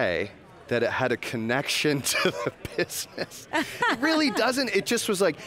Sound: laughs

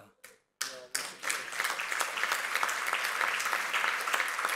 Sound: clapping

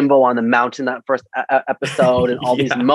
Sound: laughs

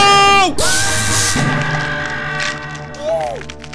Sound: screaming

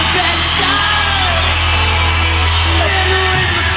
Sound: audience cheering; upbeat music

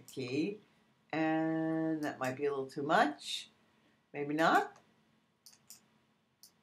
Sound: clicking

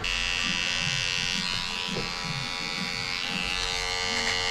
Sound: razor buzzing

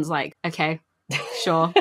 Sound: laughs

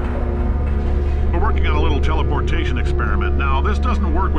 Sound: recorded message

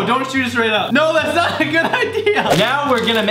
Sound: laughs

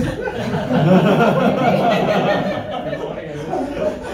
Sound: scholars laugh

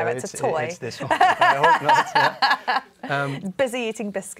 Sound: laughter

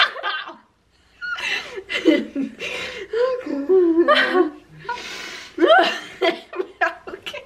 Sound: laughing

